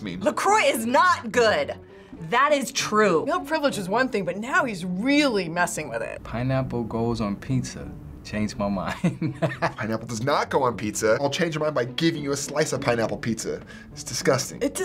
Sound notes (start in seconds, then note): 9.0 laughs